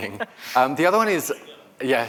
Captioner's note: laughter